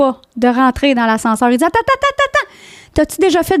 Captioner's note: in french